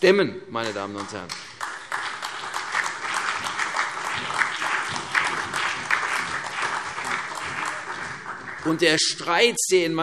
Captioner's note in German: Beifall CDU, BÜNDNIS 90/DIE GRÜNEN und vereinzelt DIE LINKE